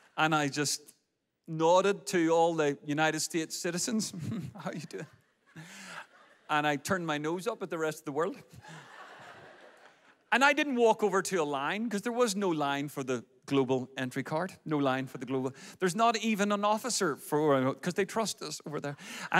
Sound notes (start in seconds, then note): 4.2 laughs; 8.6 audience laughs